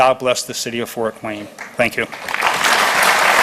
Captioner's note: applause